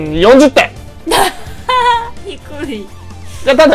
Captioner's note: laughs